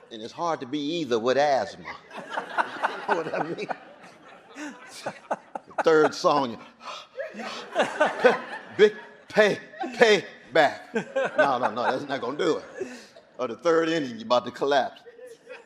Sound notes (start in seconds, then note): 3.9 audience laughing; 6.8 gasping